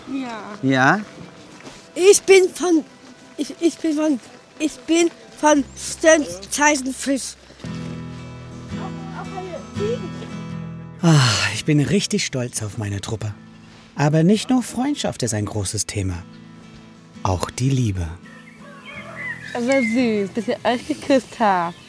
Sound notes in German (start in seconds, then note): 8.2 Sanfte Musik; 11.0 seufzt